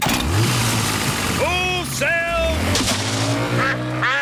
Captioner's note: engine starts